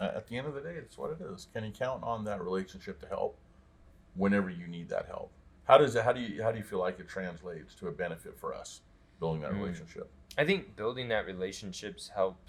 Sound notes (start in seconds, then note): none